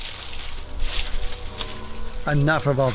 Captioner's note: rustling leaves